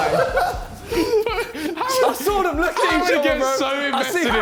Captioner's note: men chattering